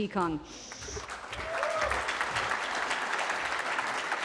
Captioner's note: cheering